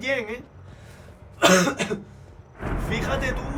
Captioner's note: Coughs in Spanish